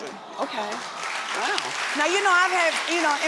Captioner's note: audience clapping